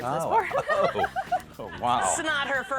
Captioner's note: laughter